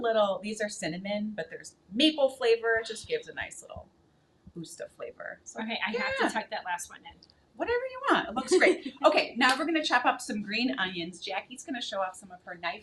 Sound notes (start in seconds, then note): 8.4 chuckling; 9.4 hands clapping